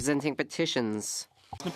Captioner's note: speaking French